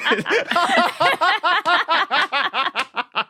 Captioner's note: laughter continues